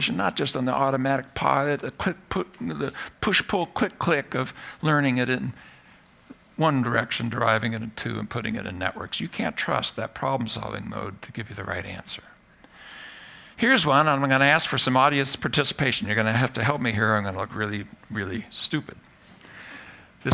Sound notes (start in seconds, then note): none